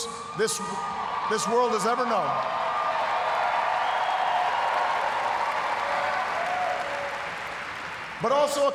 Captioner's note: cheers, applause